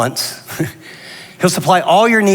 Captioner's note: laughs